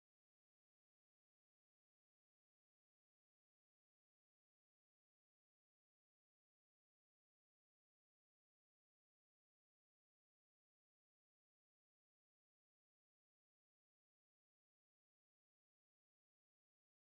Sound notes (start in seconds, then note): none